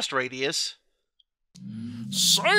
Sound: weird humming noises

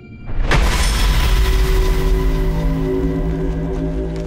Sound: rocks shattering

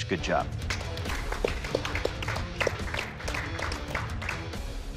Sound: applause

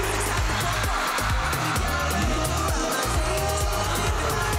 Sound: crowd cheering

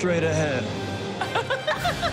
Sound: laughter

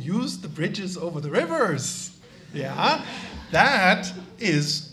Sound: audience laughs

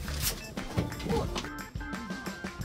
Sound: whoop

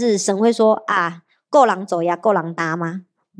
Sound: Taiwanese

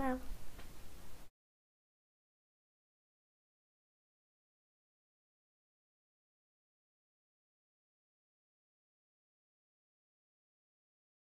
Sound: silence

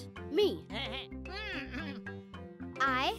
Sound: grunting

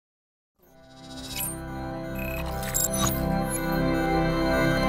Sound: machinery moving; dramatic orchestral music

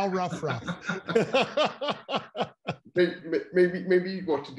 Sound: laughing loudly

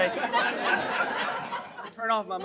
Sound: laughter

